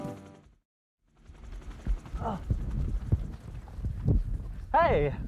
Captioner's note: helicopter flying